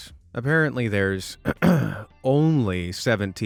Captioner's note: clears throat